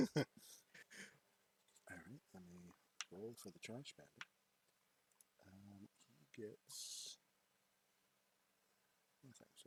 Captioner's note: muttering to himself